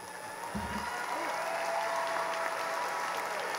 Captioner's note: cheering